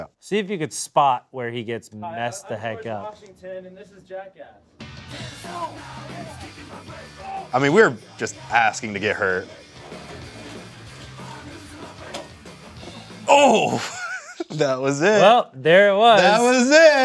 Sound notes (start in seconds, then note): 5.1 intense rock music; 6.9 groaning